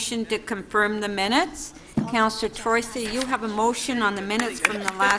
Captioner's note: applause